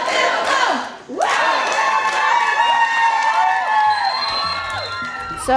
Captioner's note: cheering